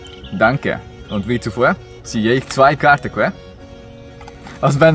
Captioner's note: low german accent